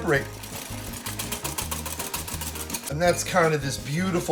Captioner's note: whisking